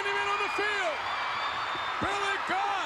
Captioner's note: spectators cheering